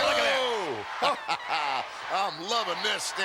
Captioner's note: Ted laughs